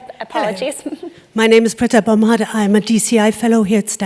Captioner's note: laugh